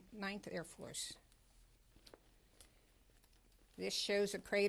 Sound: pauses for 3 seconds

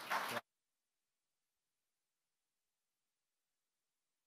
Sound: audience applauding

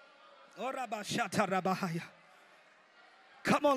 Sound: speaks in foreign language

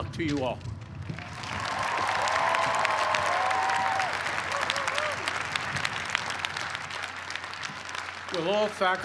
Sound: cheers and applause

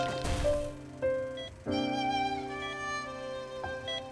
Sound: heart monitor beeping

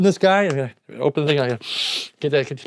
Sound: sniffs

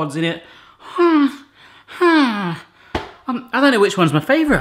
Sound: moans

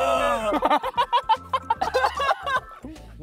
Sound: haha

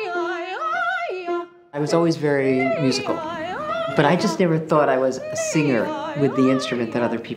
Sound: narrating

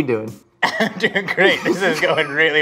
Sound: men laugh

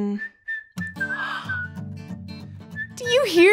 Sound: whistling; acoustic guitar music

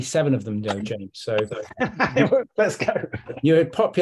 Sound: laughs

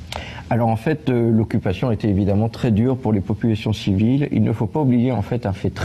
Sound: speaks in a foreign language

